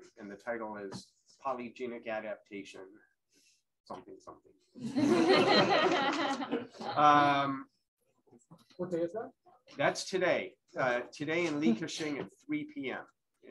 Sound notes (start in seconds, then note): 4.8 laughter